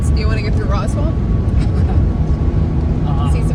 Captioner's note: laughs